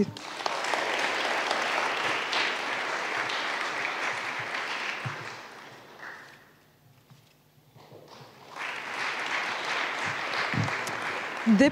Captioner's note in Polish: oklaski